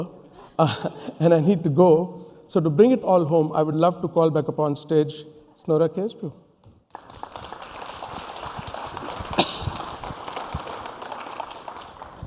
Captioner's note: applause